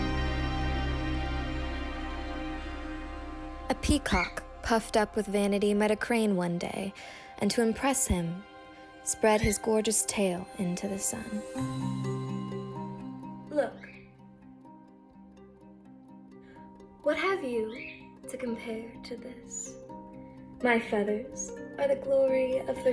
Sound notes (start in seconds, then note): 0.1 soothing music; 5.2 bird squawks